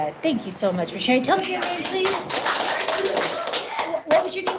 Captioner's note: clapping